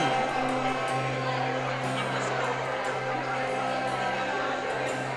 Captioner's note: crowd loudly chattering